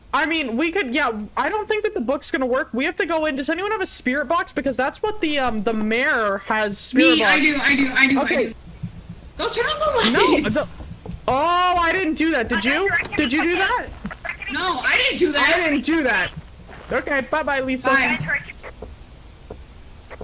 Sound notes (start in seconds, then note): 12.8 over Radio; 18.0 over Radio